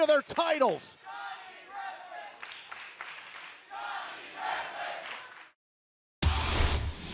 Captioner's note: crowd cheering